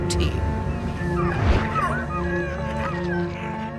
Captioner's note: whimpering